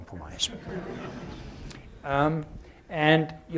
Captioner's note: laughter